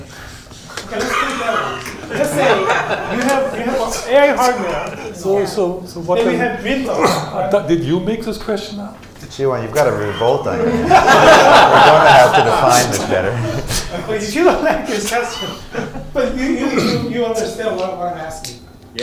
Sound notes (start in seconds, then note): 10.5 laughter